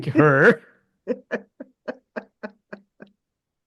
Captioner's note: laughs